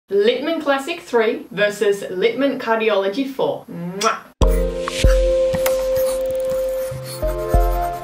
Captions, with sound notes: - Littmann Classic III versus Littmann Cardiology IV. (kissing sound) (vibrant music)